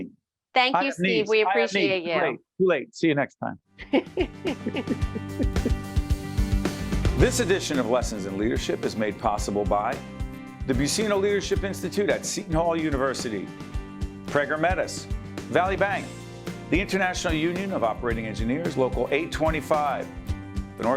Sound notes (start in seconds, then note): 3.8 both laughing